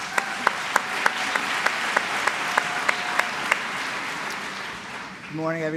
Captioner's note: applause